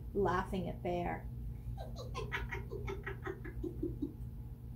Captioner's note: Fox laughs